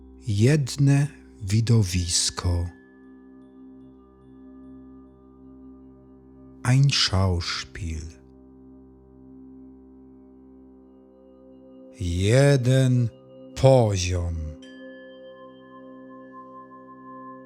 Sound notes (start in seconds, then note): 8.7 german